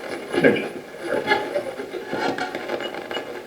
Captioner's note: radio voice